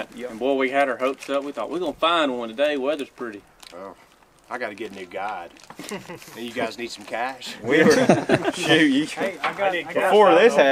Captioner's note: all laughing